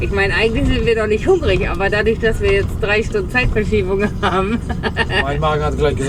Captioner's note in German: gelächter